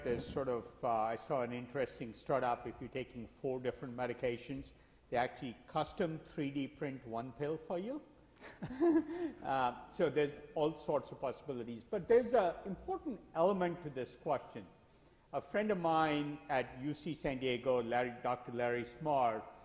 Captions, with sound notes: There's sort of, I saw an interesting start-up. If you're taking four different medications, they actually custom 3D print one pill for you. (laughs) So, there's all sorts of possibilities. But there's an important element to this question. A friend of mine at UC San Diego, Dr. Larry Smarr,